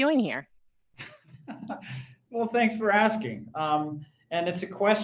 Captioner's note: laughter